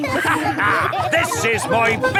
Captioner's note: all laughing